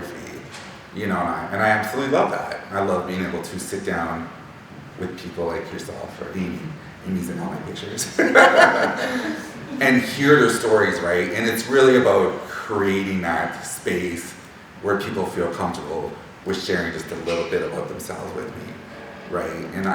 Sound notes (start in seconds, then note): 8.0 laughing